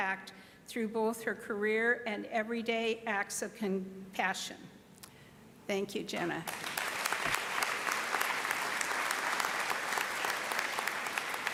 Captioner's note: applause